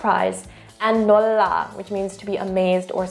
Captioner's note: speaks in Korean; speaking in Korean